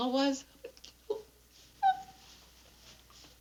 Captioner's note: whimpering